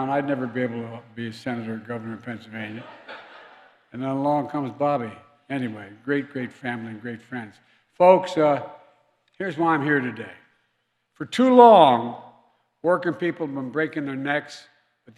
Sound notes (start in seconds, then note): 2.7 laughter